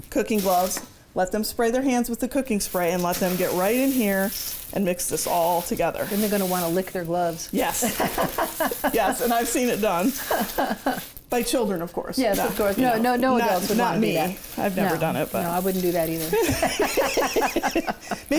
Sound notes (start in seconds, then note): 7.7 laughs; 16.3 chefs laughing